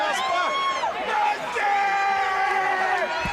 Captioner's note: crowd chatter